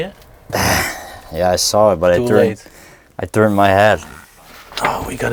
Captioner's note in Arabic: تأوه